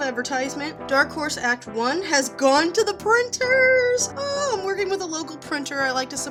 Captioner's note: squeal